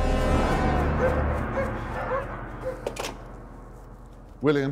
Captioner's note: soldiers talking in German; dogs barking